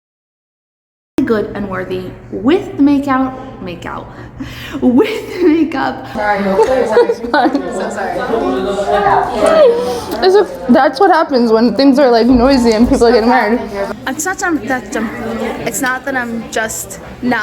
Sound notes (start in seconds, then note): 6.4 background chatter